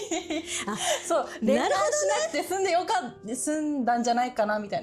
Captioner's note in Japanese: 笑い